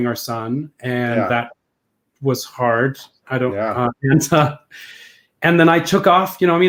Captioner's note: laughs